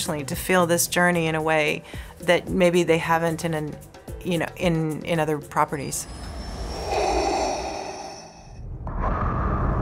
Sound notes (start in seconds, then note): 6.0 Vader breathing